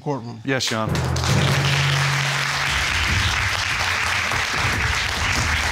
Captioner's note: audience applauding